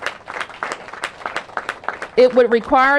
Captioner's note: applause